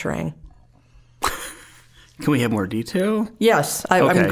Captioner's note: chuckling